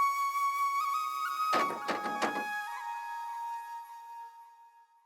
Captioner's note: door Knocking